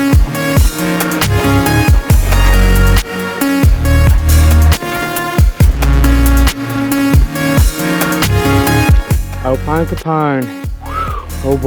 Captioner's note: whistle